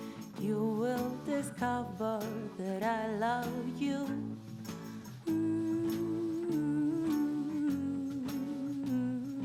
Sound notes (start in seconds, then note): 5.1 humming